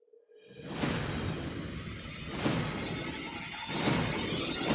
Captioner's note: sharp electronic sound